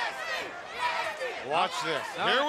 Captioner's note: crowd cheering